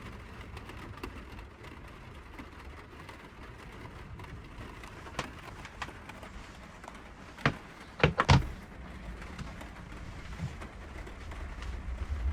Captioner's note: rain falling on van roof